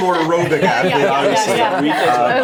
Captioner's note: everyone laughing